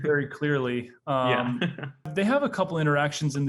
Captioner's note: chuckling